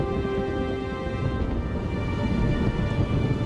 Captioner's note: thunder crashes